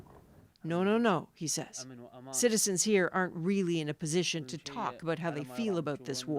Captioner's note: speaking alternate language